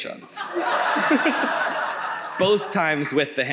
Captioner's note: audience laughs